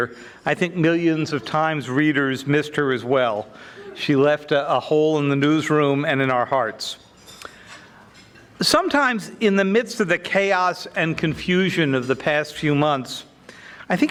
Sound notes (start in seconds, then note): none